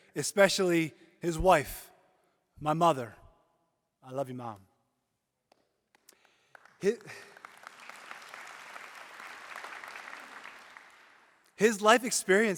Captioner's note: applause